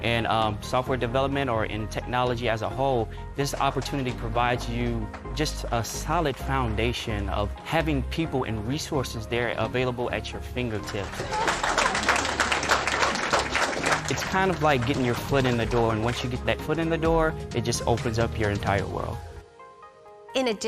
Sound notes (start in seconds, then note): 10.8 audience applauding